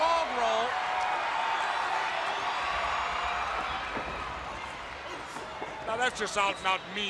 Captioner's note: crowd cheering